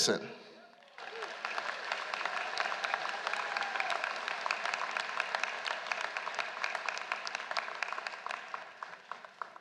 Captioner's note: applause